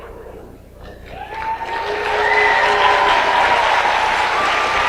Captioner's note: audience applauds